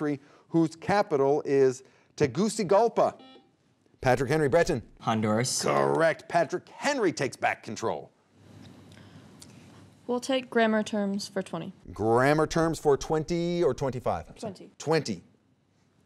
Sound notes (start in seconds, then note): 3.2 buzzer beeping